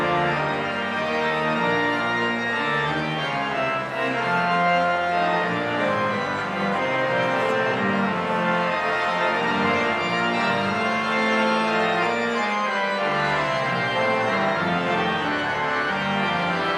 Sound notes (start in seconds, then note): none